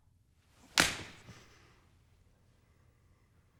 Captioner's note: smack